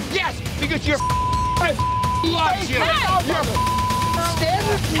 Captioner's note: men arguing